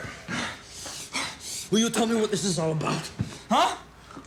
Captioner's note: panting